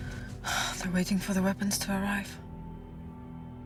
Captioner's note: sighing